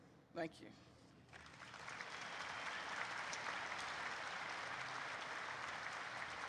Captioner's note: applause erupts